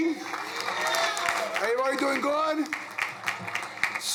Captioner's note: crowd cheering